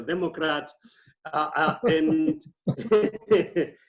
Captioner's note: laughs